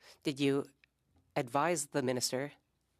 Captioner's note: speaking French